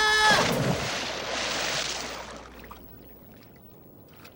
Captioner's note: water splashing